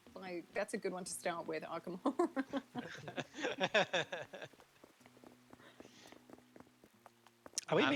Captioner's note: laughing